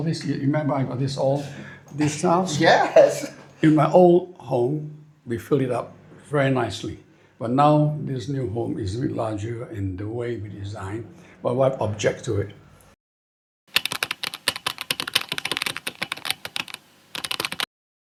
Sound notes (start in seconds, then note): 13.7 typing